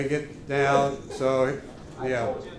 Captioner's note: laughter